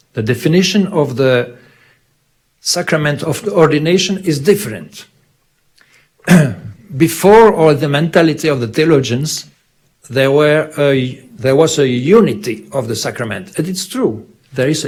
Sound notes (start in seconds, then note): 6.2 clears throat